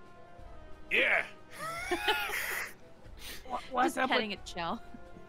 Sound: laughs

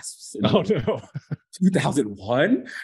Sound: chuckling

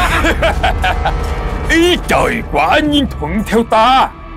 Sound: laughing

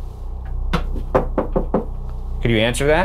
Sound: knocking at stair railing; knocking at door

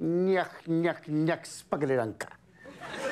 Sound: speaks foreign language; crowd laughs

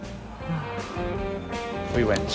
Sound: sighs

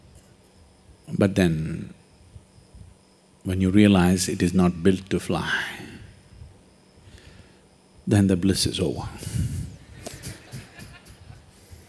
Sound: laughter

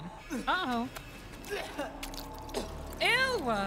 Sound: vomits

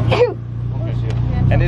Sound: sneeze

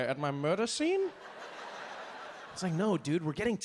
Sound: audience laughing

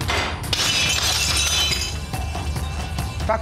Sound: plate shattering

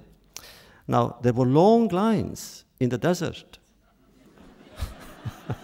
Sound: laughter

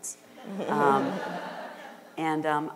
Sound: audience laughter

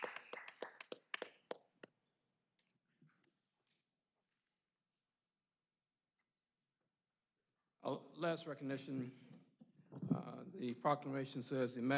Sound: applause

